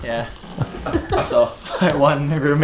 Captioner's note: laughter